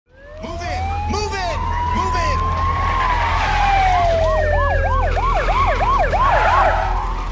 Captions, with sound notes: [sirens wailing] - Move in! Move in! Move in!